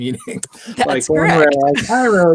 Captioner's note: chuckles